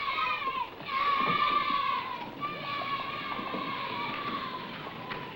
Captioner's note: children cheering